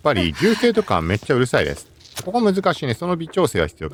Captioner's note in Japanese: 笑い